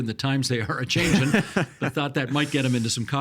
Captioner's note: laughing